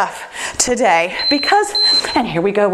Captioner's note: timer beeps